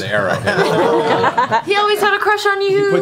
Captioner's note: laughter